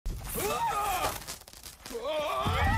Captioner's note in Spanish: la chispa crepita; el personaje grita